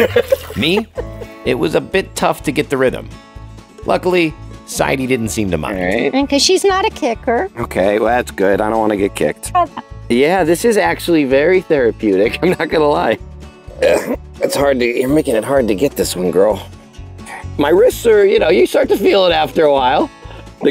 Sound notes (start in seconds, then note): 0.0 laughs; 12.3 chuckles; 13.7 grunts